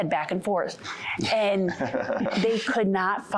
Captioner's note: laughing